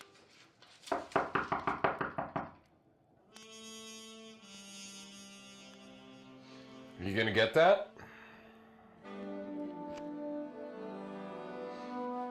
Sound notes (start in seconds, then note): 0.9 knock raps on door; 10.9 sighs